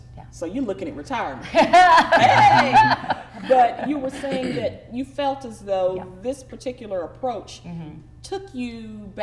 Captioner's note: laughing